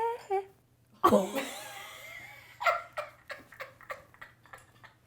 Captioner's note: laughs